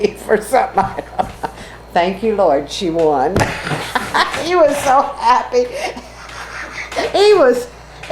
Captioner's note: laughs